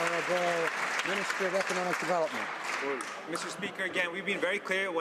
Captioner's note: some Applause